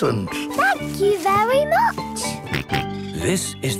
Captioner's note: George snorts